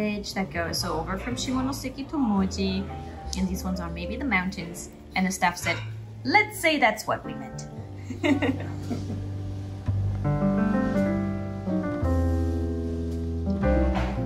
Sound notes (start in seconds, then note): 8.1 laugh